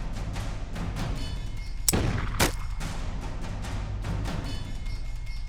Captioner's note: gunshots